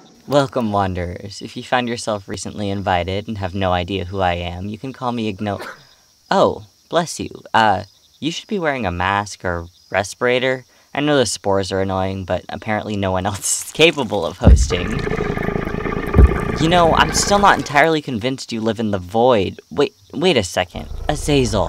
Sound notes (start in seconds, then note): 5.5 sneeze; 14.5 Azazel grumbles